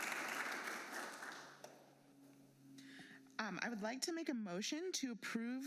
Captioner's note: applause